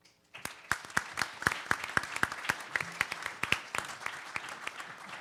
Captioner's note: participants applaud